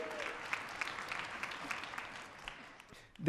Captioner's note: audience clapping